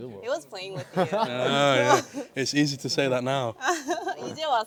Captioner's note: sarcastically